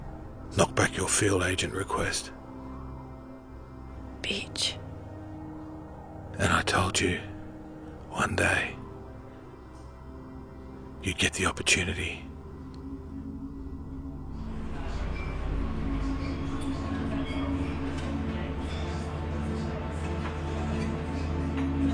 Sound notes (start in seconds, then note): 14.4 background chattering; 18.3 melodic haunting music